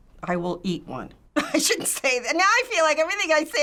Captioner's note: laughs